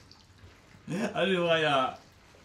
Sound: laughs

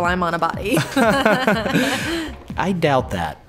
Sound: both Laughing

